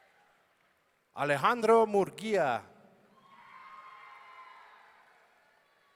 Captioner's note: audience cheering